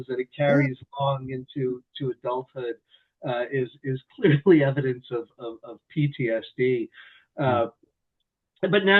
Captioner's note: chuckles